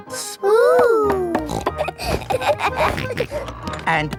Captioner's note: snorts, laughs